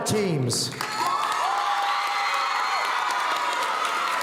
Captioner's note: audience cheering